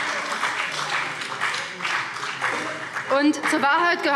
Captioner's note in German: Beifall BÜNDNIS 90/DIE GRÜNEN